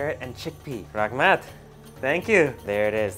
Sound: in foreign language

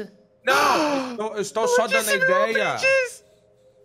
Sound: gasps

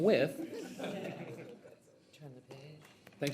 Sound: trustees laugh

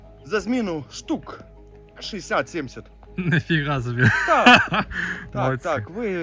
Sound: laughter

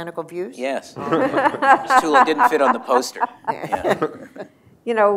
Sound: laughter

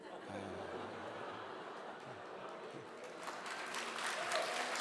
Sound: laughter and applause

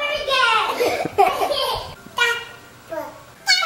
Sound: and kids laughing

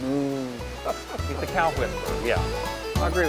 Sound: laughing

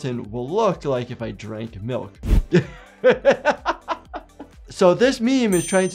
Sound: laughing

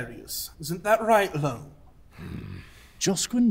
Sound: Loam grunts dismissively

